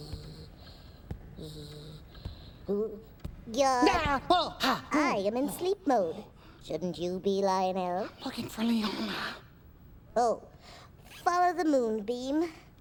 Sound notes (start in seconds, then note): 3.3 yells